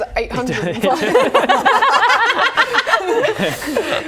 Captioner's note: laughter